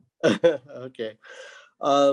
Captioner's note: laughs